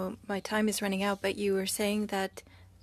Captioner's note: speaking French